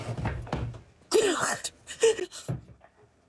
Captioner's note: sobbing